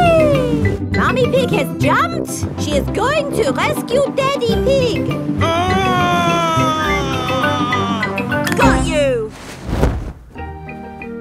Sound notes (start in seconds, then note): 5.5 screaming